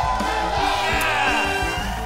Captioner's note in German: Jubel